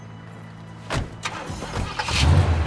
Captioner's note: ignition of engine